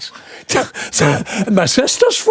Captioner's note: laughing